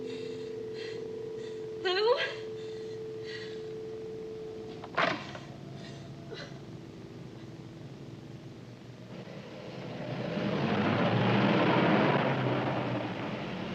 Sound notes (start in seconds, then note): 2.8 dial tone; 10.9 car approaches